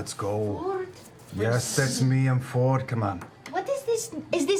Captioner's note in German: tiefere Stimme